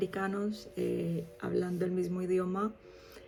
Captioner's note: Spanish